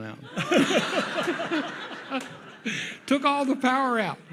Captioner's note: audience laughs